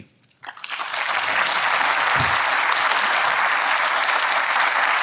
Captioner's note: audience applauds